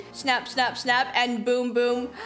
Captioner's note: gasspppppppppp